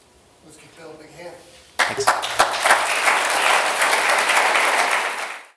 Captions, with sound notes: Let's give Bill a big hand. [APPLAUSE]